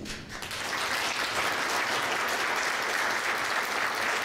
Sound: applause

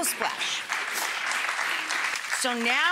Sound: audience applauds

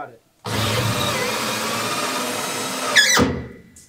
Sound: more drilling

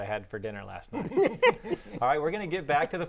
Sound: laughter

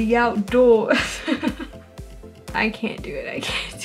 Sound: laughs at how bad the accent was

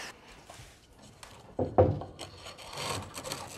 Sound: thumping

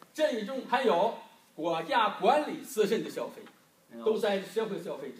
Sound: speaking foreign language

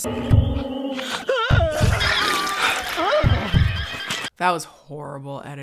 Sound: llama alarm cries; man screaming

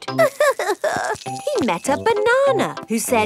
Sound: crying

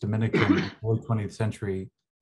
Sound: cough drowns out

